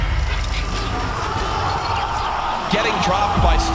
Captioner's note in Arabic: تعجب الجمهور